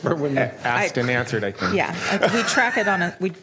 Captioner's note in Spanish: Risas